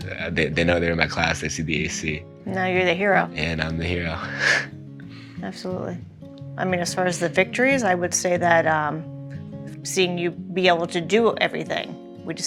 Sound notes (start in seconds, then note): 4.1 chuckles